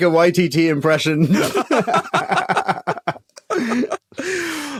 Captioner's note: guys laughing